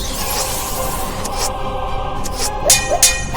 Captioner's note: arrows whooshing; sword clanging